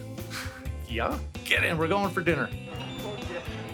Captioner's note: chuckles; seagulls cawing